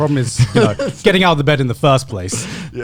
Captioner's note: men laughing